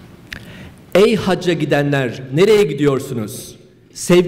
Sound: speaking turkish

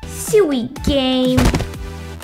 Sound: thud!

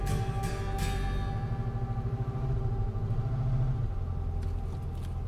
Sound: engine rumbling

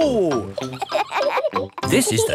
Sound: kids laughing

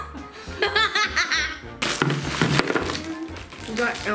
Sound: laughing

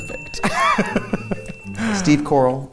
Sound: laughs

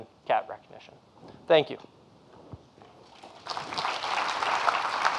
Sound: applause

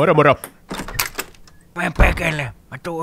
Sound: the door's closing

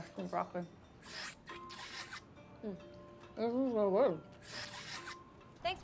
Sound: slurping

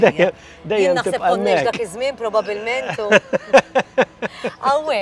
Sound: laughs

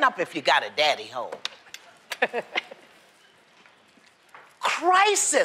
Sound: laughs

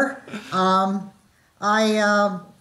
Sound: chuckle

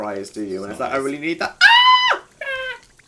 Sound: squeals; high pitched squeal

